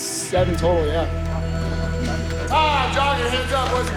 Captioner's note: timer chimes in background